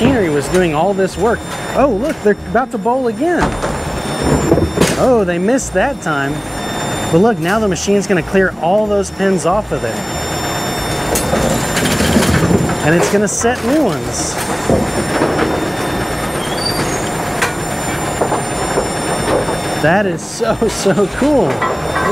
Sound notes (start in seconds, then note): 4.2 bowling bowl thuds; 15.4 machine whirring